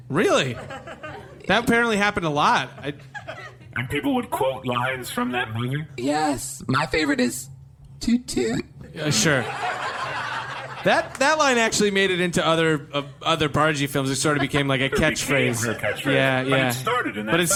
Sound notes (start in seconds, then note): 9.2 audience laughter